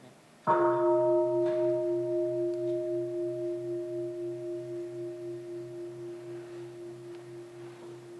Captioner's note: sound of the bell